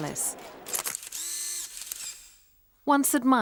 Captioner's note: camera shutter clicking